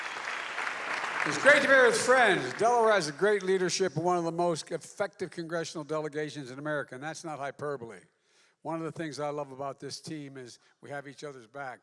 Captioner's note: applause